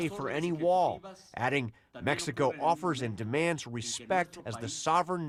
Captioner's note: speaking spanish